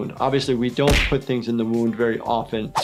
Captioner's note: smacks